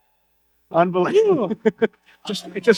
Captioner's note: laughing